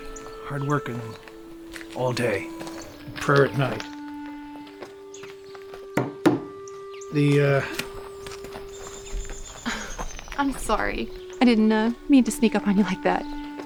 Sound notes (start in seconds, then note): 6.0 hammer thudding; 7.2 rocks crunching